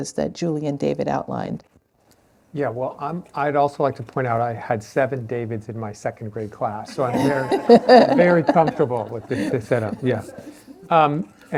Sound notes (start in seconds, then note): 6.8 laughter